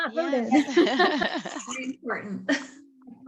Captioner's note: laughter